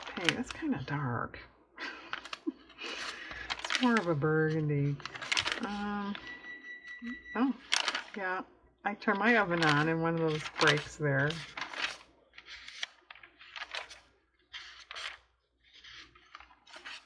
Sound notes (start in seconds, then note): 1.8 laughs; 5.8 electronic beeping